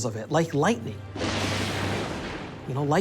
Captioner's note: thunder claps